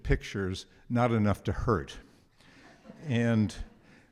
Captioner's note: audience laughs